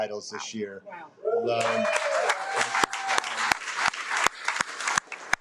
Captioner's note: audience applauding